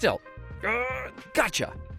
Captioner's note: grunting